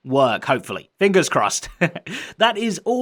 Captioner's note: chuckles